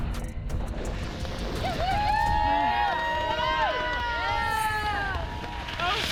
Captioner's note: cheering